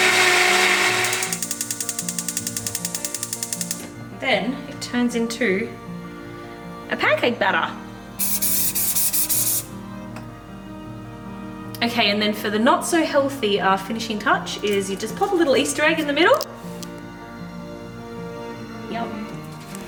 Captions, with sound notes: (stove clicking) Then it turns into a pancake batter. (spraying) Okay, and then for the not so healthy, our finishing touch is you just put a little Easter egg in the middle... Yum.